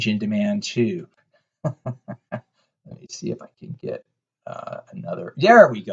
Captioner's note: laughs